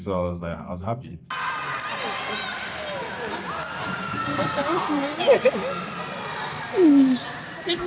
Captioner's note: cheering